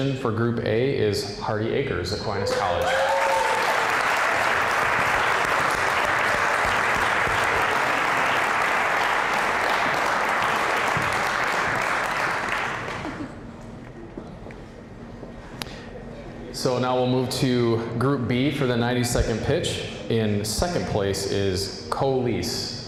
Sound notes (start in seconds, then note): 3.2 applause, cheering; 6.1 applause